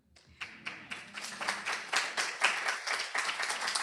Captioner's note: applause